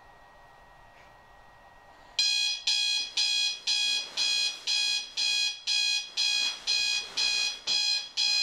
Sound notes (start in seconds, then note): 2.2 alarm clock going off